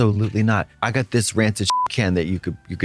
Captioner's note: beep